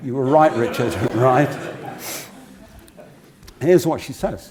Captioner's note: laugh